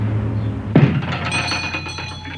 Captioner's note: shop bell dings